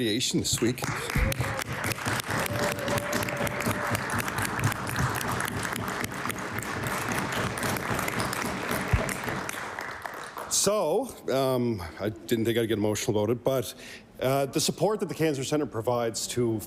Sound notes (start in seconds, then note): 3.3 applause